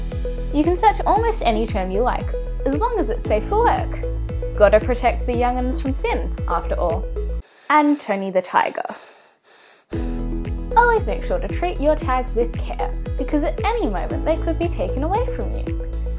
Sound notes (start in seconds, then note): 8.8 heavy breathing starts, music stops; 10.0 music restarts